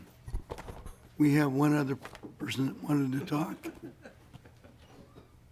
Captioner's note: chuckling